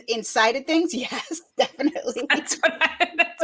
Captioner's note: laughs